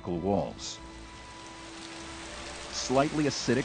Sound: rain falling

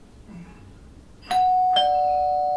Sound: calling bell 00:12:46

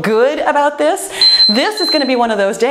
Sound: timer beeps

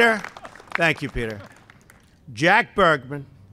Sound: applause

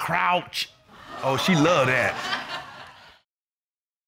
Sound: audience exclaiming, laughing

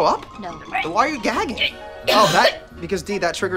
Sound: gags

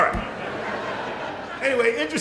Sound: laughter

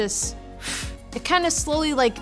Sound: exhales sharply

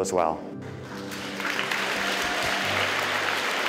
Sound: applause

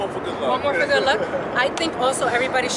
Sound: chuckling

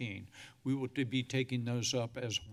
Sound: sighs

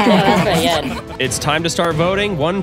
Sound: everyone laughs

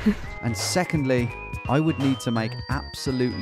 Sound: voiceover

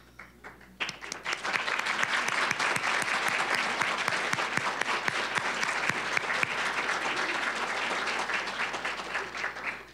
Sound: applause

